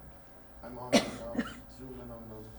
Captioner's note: coughing